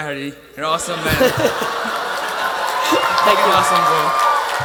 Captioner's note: attendees applauding and laughing